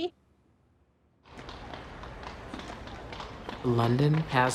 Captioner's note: horses trotting